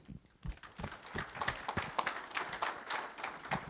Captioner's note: audience applauds